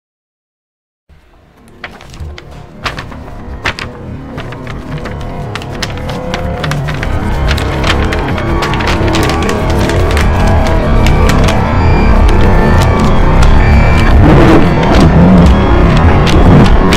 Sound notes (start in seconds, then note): 0.0 sound of hell